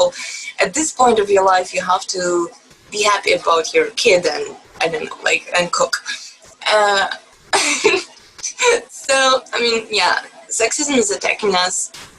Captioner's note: chuckles